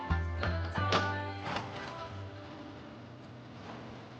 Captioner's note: cutlery rattling